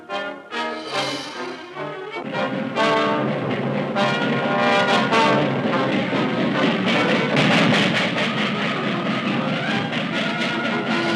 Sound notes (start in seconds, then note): 3.8 train chugging